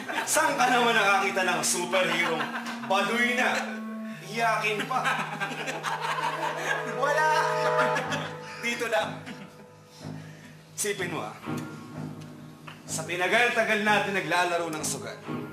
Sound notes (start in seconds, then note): 4.6 laughing